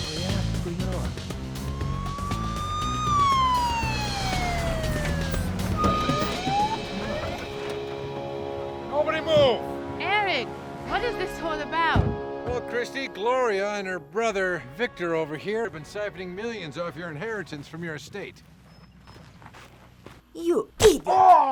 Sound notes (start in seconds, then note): 1.5 police siren; 3.1 sinister music